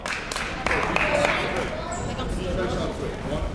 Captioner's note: crowd clapping